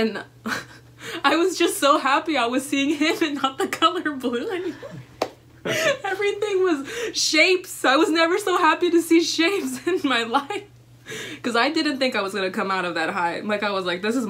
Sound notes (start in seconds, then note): 5.6 laughter